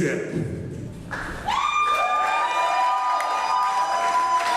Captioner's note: crowd cheers